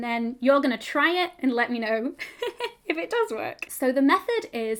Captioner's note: laughing